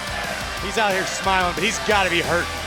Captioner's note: fans chanting